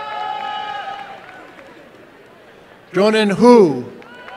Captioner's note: applause and cheering